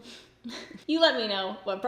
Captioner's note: giggles